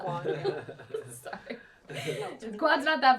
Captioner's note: laughs